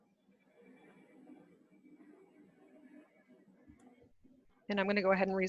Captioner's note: computer whirring